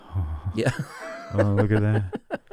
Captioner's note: laughter